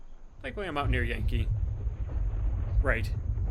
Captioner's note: thunder